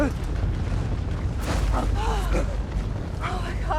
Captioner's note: gasping